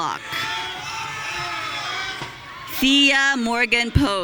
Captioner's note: audience cheering